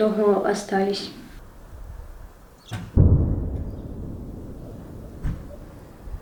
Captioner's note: explosion sounds